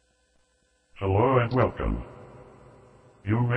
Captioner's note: computer talking